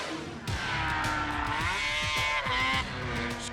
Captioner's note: dramatic air whoosh; snowmobile buzzing